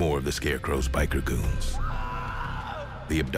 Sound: strangled yelling

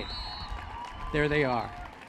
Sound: applause

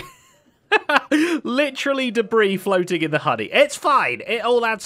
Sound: laughs

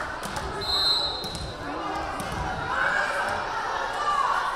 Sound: whistle blaring

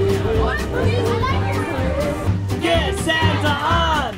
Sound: laughs

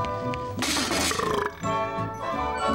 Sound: burping

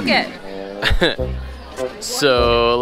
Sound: chuckles

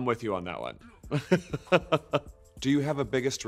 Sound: laughs

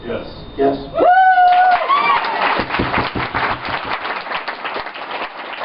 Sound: attendees cheering and clapping

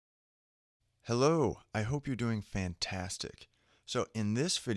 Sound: voiceover

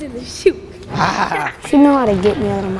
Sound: laughs

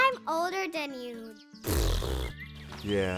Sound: raspberry

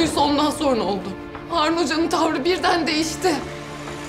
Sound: Mine voice over

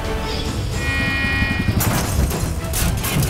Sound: glass shattering; car horn honking

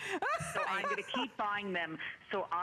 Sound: laughter

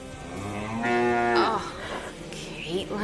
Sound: cow mooing

